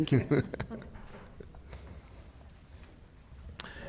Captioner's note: chuckles